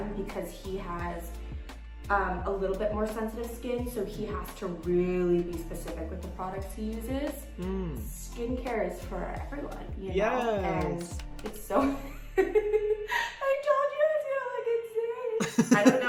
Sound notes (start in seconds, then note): 11.7 Lana laughing